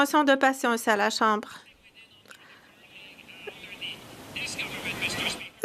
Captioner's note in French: voix de l'interprète